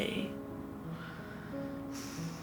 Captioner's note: sighs